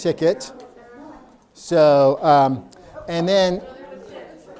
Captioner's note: people talking